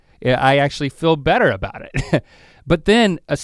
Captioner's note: chuckles